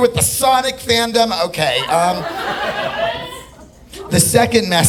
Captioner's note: audience laughing